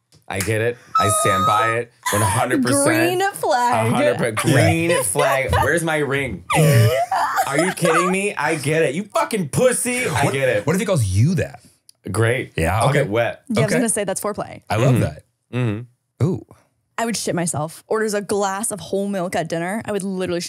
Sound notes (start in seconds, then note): 14.7 laughing